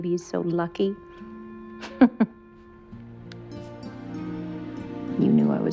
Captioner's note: giggles